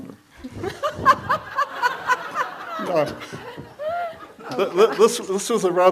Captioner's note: laughs; audience laughs